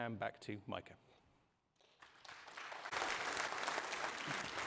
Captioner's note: applause